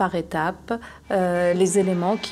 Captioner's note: horns honking